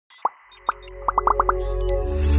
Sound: bubbles popping; soft digital music

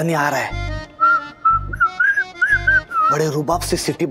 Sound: whistling

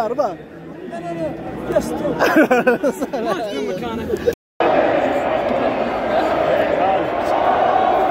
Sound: laugh

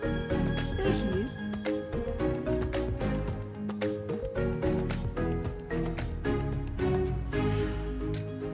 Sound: none

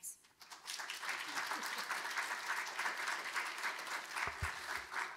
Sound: audience applauding

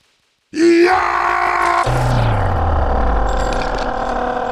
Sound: Heavy lets out a battle cry!

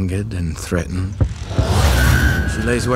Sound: shrieks

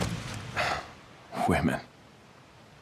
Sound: sighs

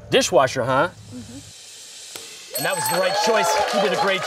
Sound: dinging and cheering

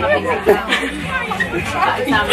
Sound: laughing

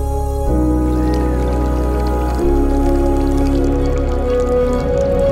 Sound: drink pouring

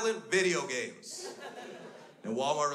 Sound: crowd laughs

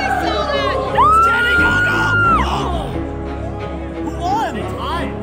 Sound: screaming

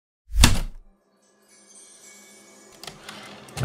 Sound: heavy typewriter keystroke, light chimes, typewriter return slide

